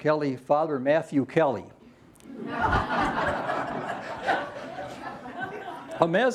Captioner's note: laughter